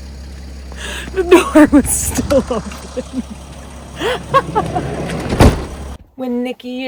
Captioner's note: laughing